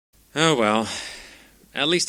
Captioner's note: sigh